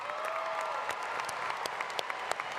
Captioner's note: applause